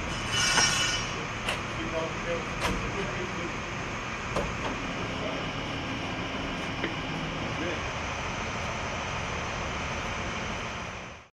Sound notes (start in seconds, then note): 0.2 mental scraping sounds; 2.9 low engine noises; 5.0 background talking; 7.1 low engine noises